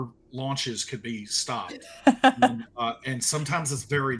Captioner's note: laughing